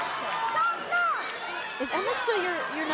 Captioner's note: wrestlers yelling